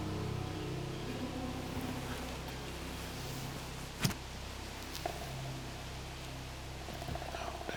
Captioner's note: whispering